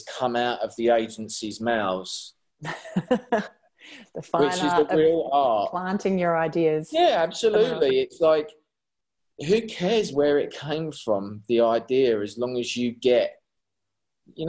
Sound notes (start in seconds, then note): 2.6 laughing